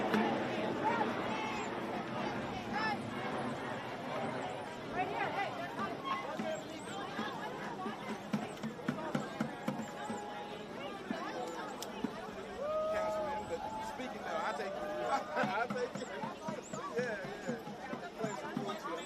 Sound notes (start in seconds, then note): 5.9 chanting